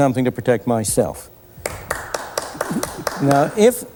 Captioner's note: applause